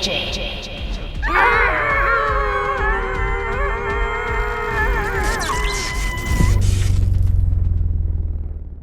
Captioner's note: screaming continues, electricity crackles